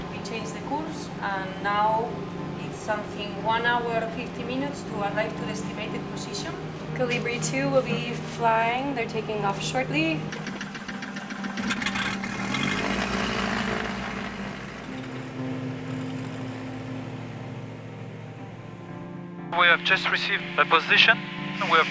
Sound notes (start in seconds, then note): 10.9 helicopter buzzes; 16.6 gentle music